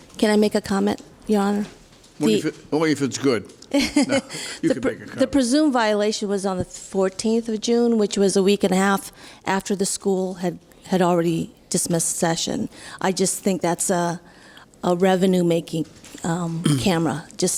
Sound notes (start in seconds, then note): 3.7 laughing